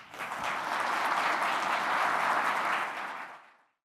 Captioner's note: applause